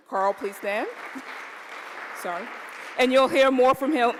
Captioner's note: applause